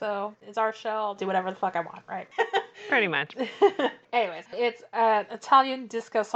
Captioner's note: laughs